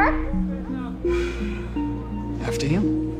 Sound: Candace sighs

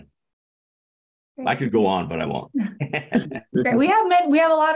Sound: laughs

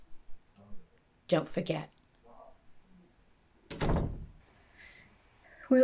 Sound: door opens and closes

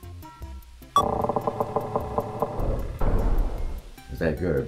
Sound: beep, drawbridge creaks, slams in place

